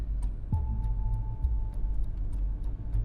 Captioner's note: ambient music with a forbidding chime; car sounds while driving